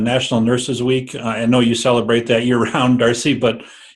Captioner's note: laughter